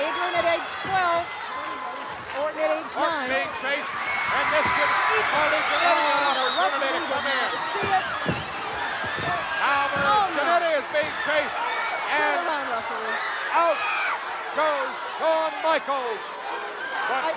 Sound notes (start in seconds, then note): 3.8 audience cheering and screaming